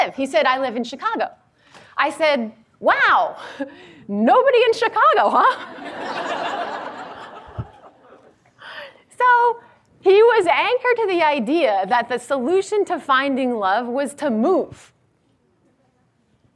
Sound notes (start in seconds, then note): 5.6 audience laughs